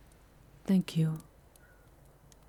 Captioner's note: quietly